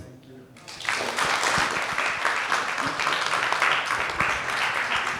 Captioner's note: audience applauding